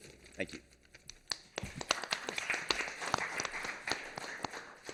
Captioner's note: applause